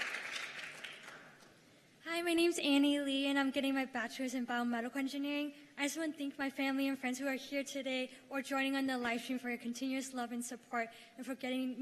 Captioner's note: cheers and applause